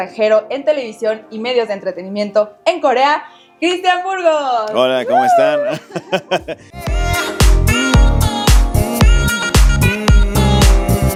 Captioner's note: laughs